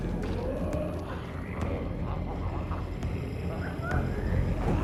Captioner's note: Smelly growling